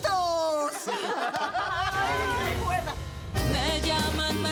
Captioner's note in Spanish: Carcajadas